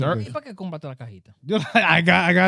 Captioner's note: speaking In Foreign Language